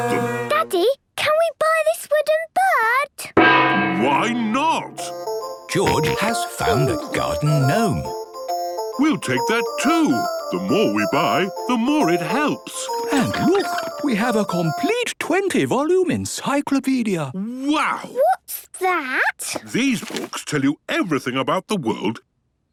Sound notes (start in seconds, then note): 3.2 gong; 8.2 giggling